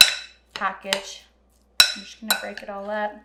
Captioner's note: bowl clanging